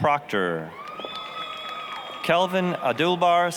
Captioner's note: applause, cheering